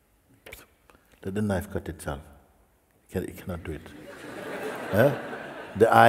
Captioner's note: laughter